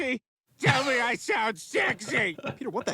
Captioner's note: laughs